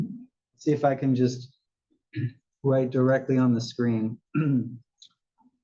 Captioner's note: cough